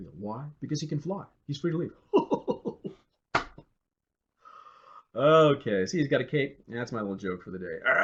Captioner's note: laughing